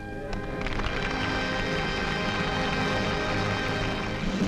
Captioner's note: audience clapping